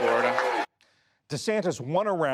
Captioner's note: cheering and applause